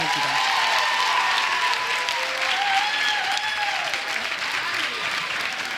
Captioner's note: audience cheers and applauds